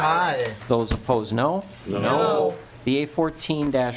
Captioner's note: chorus of ayes